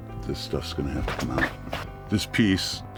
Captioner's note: scratching sound